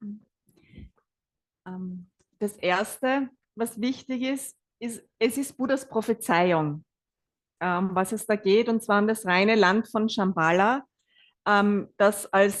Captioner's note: German live translation